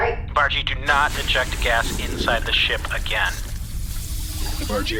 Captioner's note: hissing, sound of gas gushing out